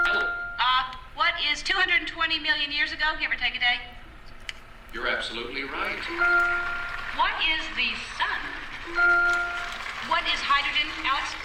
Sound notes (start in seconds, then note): 5.2 Jeopardy! clue sound with every flash